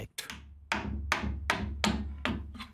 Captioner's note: hammering